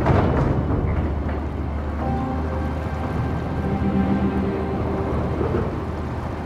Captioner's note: bridge rattling; suspenseful synth music